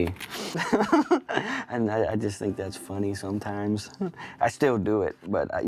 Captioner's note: laughs